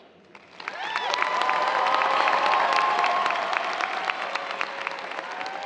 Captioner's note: audience cheers and applause